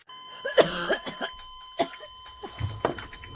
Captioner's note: coughing